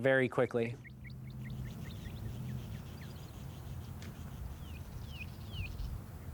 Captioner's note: birds and wildlife sounds